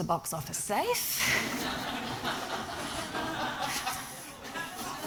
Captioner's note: audience laughing